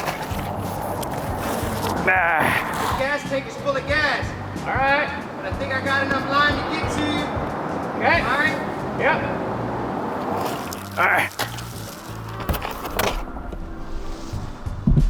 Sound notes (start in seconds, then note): 2.1 grunts; 12.5 chill music